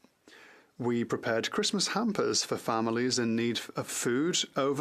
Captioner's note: speaking French